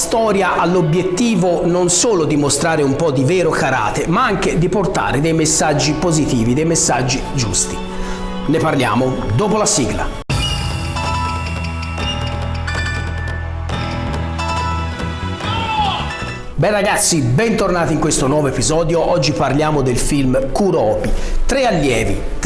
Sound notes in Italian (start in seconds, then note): 12.0 Applauso